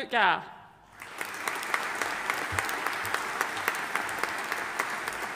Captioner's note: audience applauding